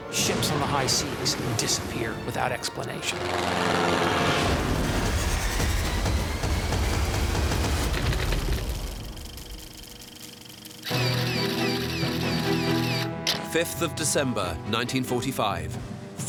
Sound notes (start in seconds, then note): 4.8 dramatic music; 6.6 film reel whirring; 8.0 keys clicking